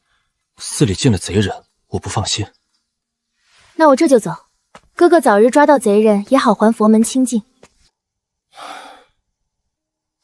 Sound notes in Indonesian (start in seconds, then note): 8.5 Menghela napas